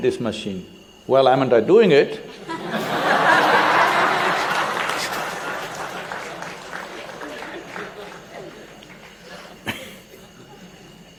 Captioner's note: laughter/Applause